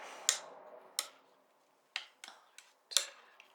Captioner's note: clicking